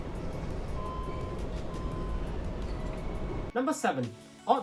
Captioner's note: elevator beeping